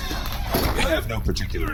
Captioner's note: half-stifled laugh